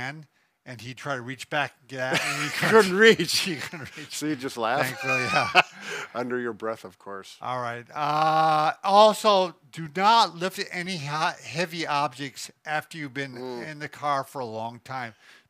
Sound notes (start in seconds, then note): 13.3 hums agreeably